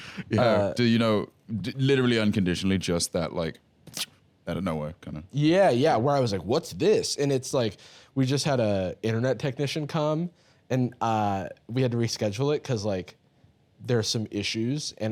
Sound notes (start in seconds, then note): 3.9 shock